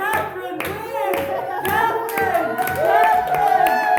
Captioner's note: audience cheers